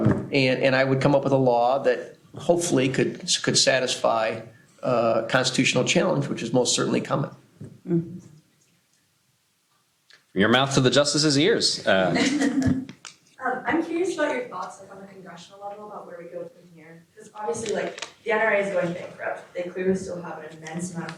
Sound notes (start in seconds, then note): 12.0 laughter